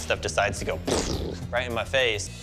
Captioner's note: mimics explosion